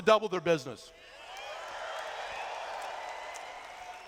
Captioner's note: cheers